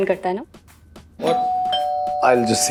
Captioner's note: doorbell ringing